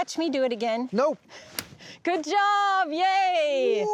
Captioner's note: cutting sound